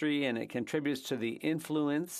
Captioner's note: speaking French